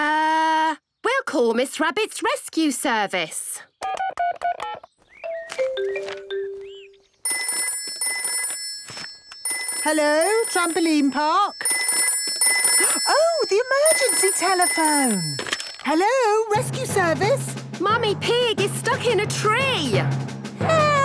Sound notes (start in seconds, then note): 5.2 phone beeping; 7.2 phone ringing; 12.0 phone ringing